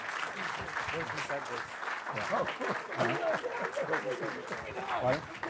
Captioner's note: people laughing